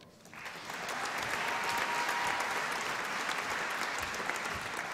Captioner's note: applause and cheering